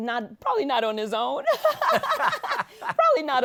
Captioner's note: both laugh